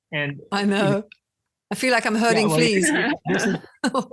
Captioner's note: more laughing